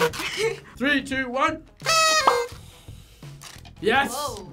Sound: laughs; horn honks

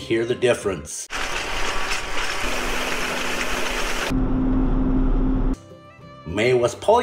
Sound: baler running

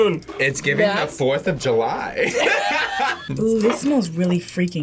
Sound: both laugh

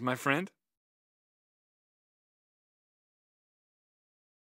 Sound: pause

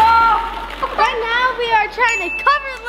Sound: bell dings

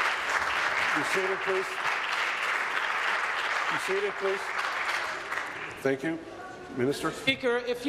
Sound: applause

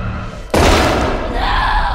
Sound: bang

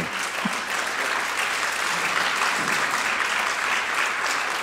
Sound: audience applauds

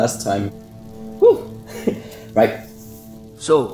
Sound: chuckle

